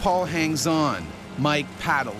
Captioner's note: voiceover